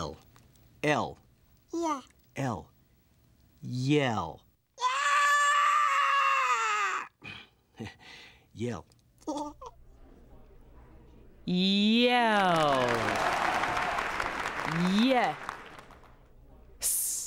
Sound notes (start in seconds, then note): 1.3 makes "y" sound; 4.6 "Y" yells; 12.3 applause